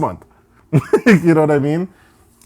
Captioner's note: laughing